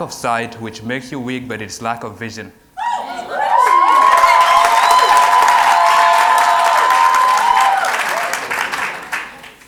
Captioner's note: cheers and Applause